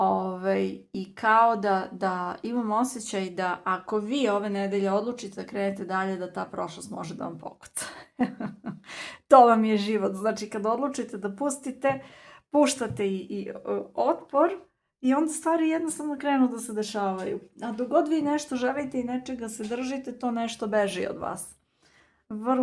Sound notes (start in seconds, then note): 8.0 laughter